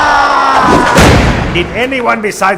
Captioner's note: s l a m